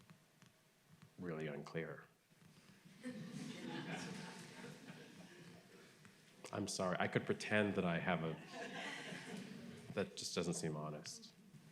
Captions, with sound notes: (audience laughing) I'm sorry. I could pretend I have a, That just doesn't seem honest.